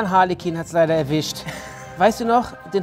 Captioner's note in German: Lachen